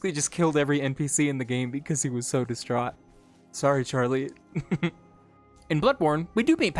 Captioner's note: giggle